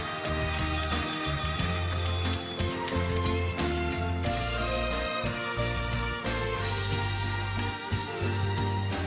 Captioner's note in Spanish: Aclamaciones; Aplausos